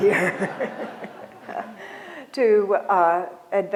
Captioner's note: laughter